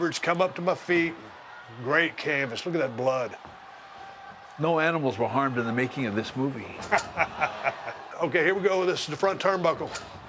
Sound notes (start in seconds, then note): 6.8 laugh